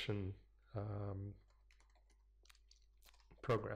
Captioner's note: pause